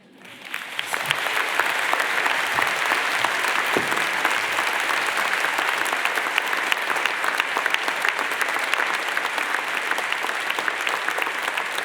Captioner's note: applaudissement - applause